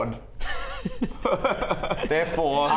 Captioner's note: defeated laugh